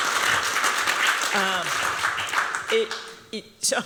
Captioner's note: applause